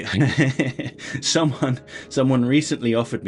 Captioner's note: laughter